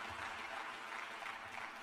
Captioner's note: cheers and applause